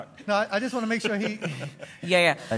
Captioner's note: laughter